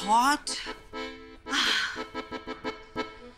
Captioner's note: Ana sighs